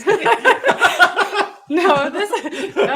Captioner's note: laughing